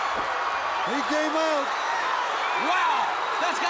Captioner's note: crowd cheering